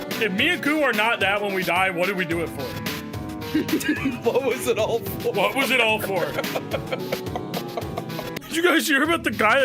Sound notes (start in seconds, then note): 3.5 laughs; 7.3 laughs